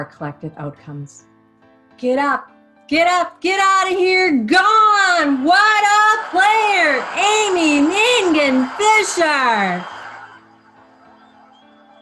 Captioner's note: stadium cheering